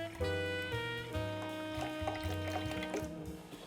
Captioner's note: liquid pouring